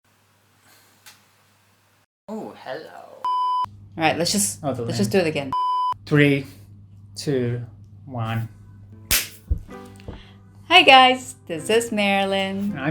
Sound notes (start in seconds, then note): 9.1 clap